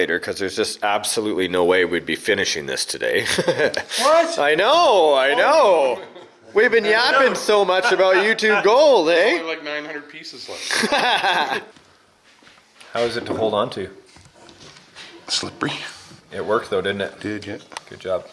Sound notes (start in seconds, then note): 3.2 chuckling; 10.6 laughing